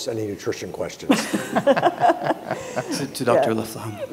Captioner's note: speakers and audience laughing